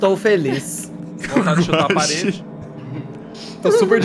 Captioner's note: laughter